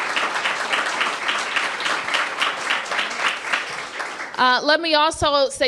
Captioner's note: applause